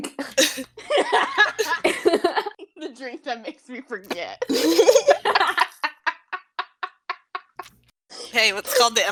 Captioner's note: laughter